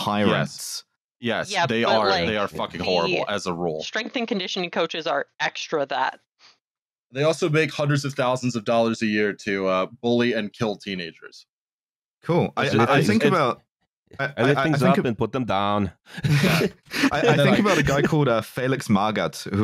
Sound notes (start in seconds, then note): 14.4 Arnie voice; 16.1 laughter